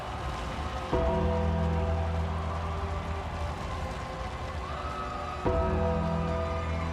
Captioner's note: gothic music; bell ringing